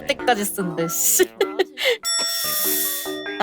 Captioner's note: chuckles